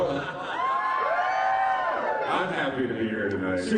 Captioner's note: cheering